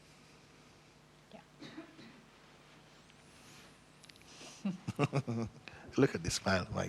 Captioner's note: laughs